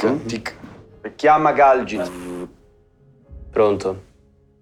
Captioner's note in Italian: Rumori di attivazione